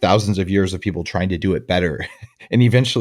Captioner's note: laughs